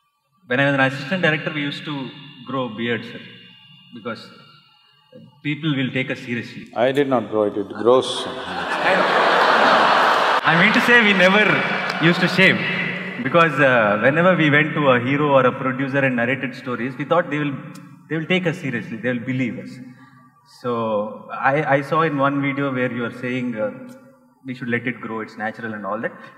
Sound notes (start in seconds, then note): 7.6 laughs; 8.0 laughter